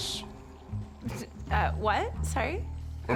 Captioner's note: scoffs